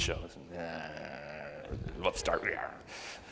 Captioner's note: grumbles